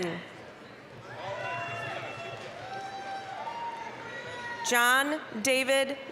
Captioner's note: applause, cheering